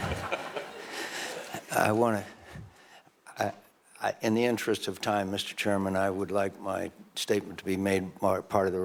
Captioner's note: laughter